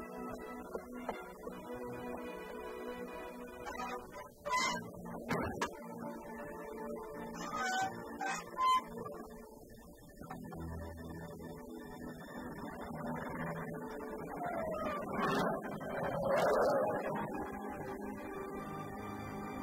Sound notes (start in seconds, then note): 4.1 metal creaking